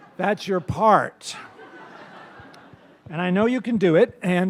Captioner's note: laughter